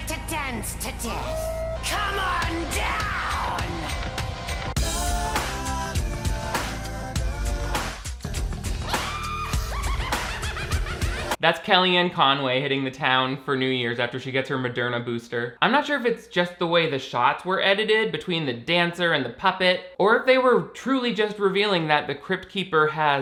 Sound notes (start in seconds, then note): 4.5 upbeat music; 9.0 woman laughing maniacally